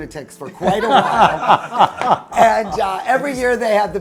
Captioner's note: group laughs